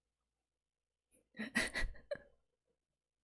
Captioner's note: laughs